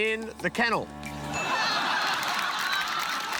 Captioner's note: laughter; ding!